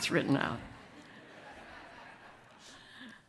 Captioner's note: audience laughs